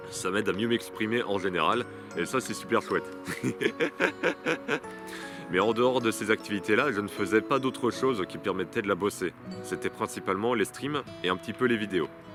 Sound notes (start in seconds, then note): 3.2 laughs